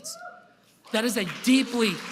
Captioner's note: applause